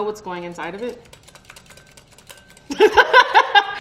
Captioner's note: whisk hitting glass bowl quickly; laughing loudly